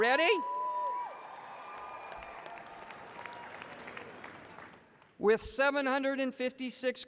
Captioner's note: cheers and applause